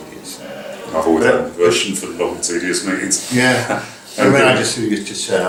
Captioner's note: laugh